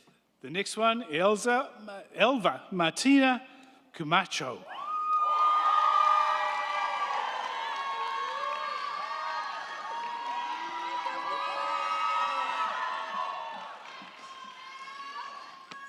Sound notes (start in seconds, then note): 4.7 crowd cheering; 4.9 crowd clapping